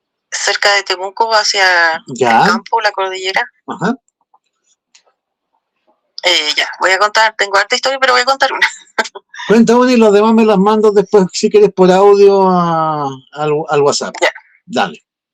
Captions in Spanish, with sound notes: cerca de Temuco hacia el campo la cordillera. Ya. Ajá. Eh, ya voy a contar. Tengo harta historia, pero voy a contar una. [risas] Cuenta una y las demás me las mando después si quieres por audio a al al WhatsApp. Ya, dale.